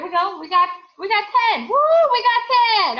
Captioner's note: cheering